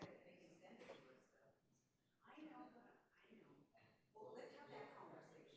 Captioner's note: crowd chattering